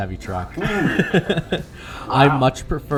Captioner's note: laughing